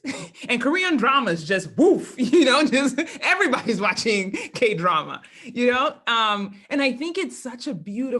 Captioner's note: laugh